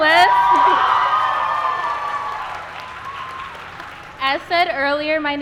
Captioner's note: applause